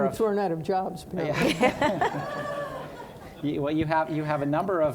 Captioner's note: audience laughing